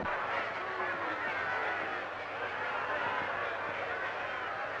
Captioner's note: crowd shouting